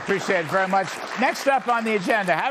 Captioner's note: applause